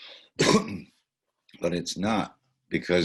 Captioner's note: clears throat